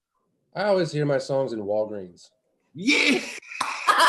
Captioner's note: laughter